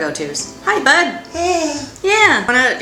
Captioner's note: baby sigh